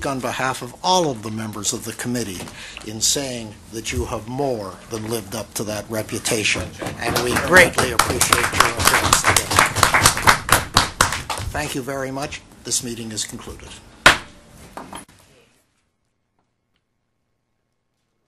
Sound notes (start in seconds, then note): 9.5 applause